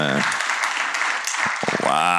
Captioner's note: applause